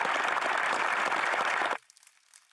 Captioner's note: applause